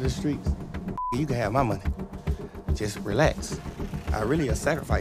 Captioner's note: beep